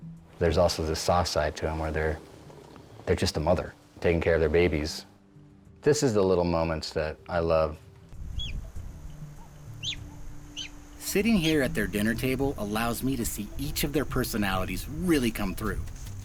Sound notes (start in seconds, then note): 8.4 cub meowing; 8.4 light music